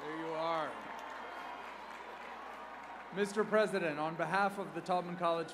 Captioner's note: cheers and applause